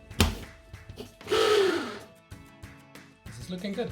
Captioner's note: blender whirring